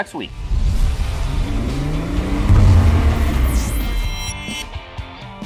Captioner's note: engine revving